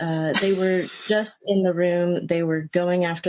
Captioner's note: laughter